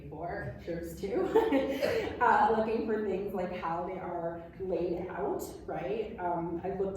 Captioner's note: laughs